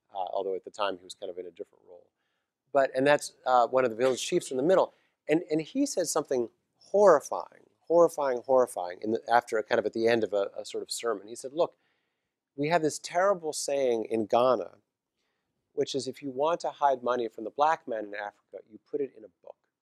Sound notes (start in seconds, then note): 4.0 cough